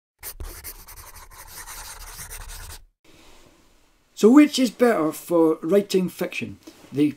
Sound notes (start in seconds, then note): 0.2 pencil scribbling